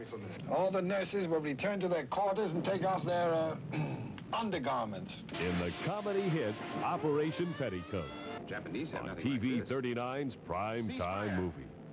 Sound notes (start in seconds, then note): 3.7 clears throat